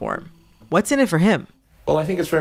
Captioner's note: soundbite of archived recording